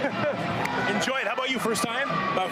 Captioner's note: hands clap